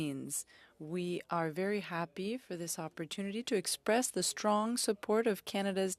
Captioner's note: speaking French